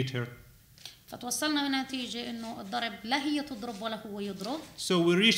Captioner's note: speaking arabic